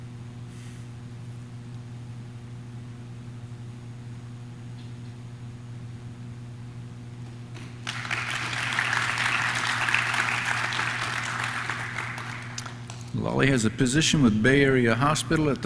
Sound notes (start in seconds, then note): 7.5 audience claps